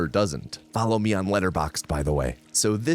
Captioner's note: whispering